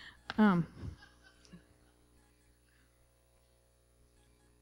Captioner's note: laughter